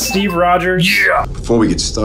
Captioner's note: bell dings